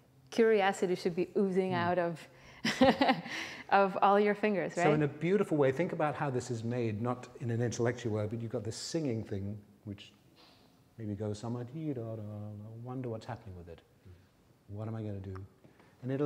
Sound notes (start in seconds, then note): 2.6 laughing; 11.8 sings